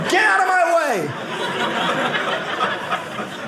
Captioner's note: audience laughing